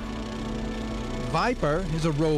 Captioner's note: vehicle humming